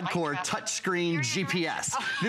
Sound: electronic voice

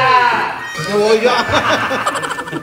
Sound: laugh tremendously

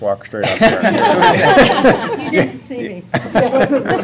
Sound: laughter

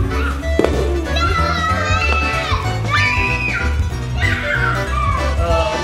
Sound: scream

